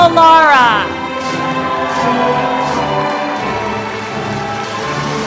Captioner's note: applause